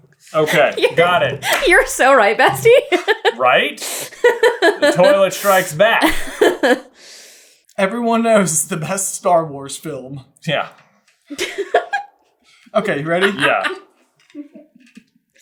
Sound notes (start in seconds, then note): 6.6 laughing